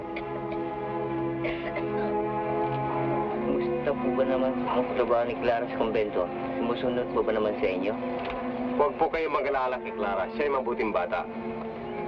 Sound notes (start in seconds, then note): 1.4 woman coughing; 4.0 people speaking in Tagalog